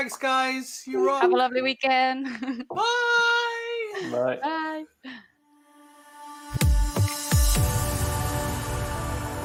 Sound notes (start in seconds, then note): 2.2 laughs; 6.3 upbeat music